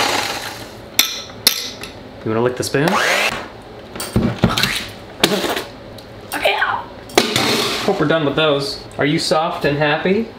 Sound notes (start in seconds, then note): 2.9 mixer whizzing; 5.2 spitting